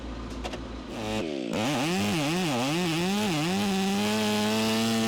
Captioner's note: chainsaw buzzing